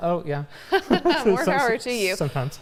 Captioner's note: laughter